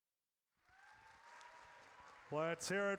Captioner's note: audience cheers